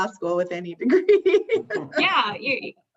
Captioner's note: laughs